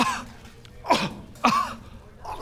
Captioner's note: kuh